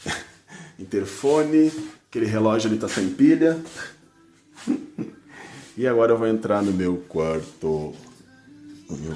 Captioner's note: laugh